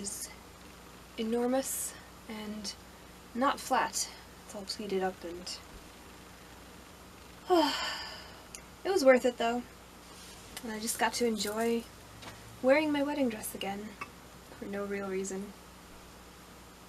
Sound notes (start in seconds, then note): 7.4 long sigh